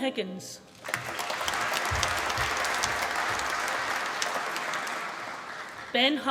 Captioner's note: applause